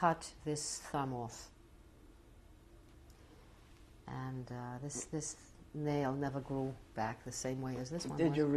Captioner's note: pauses for 3 seconds